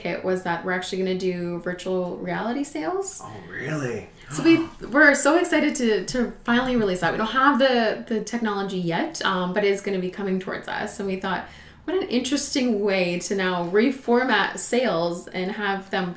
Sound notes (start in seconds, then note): 3.2 gasps